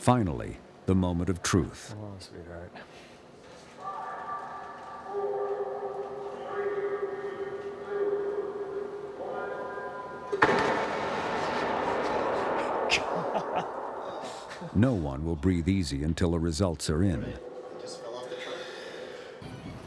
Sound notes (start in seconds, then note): 10.6 harsh clanking